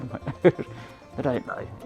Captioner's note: chuckles